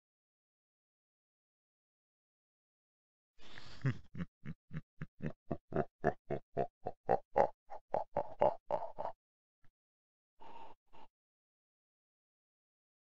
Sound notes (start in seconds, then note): 0.0 evil laugh